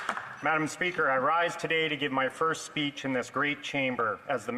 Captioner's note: some applause